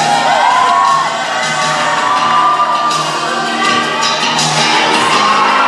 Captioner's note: cheering